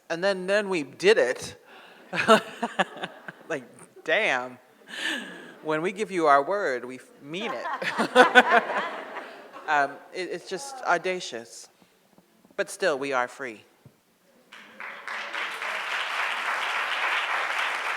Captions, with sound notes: and then we did it. (Roxane chuckles) Like damn. When we give you our word, we mean it. (audience laughs) It's just audacious. But still, we are free. (audience applauds)